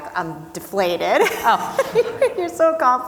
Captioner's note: both laughing